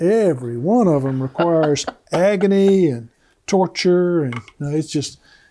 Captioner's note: laughs